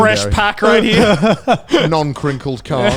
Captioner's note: laughing